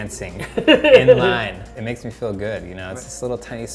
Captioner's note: laughs